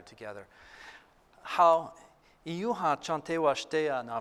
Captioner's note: non-english speech